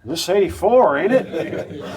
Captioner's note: spectators laugh